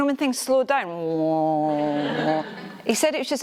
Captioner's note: slowed down vocal effect